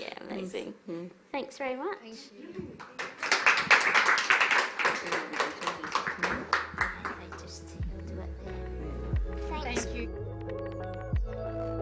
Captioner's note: applause